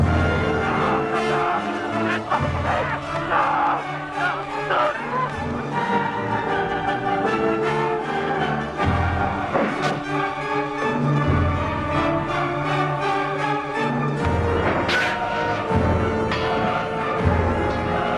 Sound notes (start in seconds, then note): 1.5 Nepakin screaming; 14.6 swords clanging